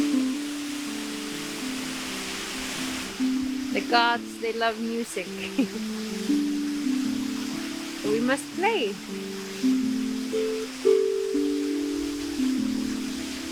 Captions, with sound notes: The gods, they love music (giggles). We must play. (gentle bright music)